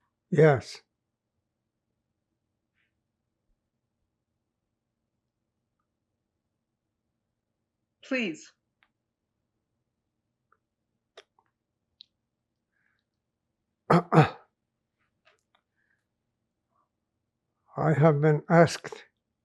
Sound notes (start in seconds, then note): 1.0 pauses 6 seconds; 8.9 pauses 8 seconds; 13.9 clears throat